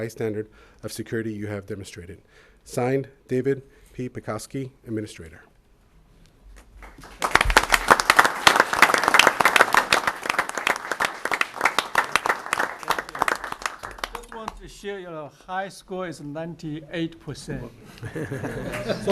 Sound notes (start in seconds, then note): 15.4 applause; 18.4 applause